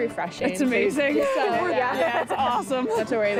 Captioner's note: laughter